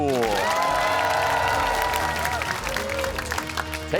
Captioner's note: cheers and applause